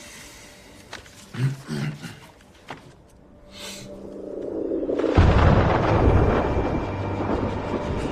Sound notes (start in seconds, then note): 1.3 clears throat; 7.3 thunder rolls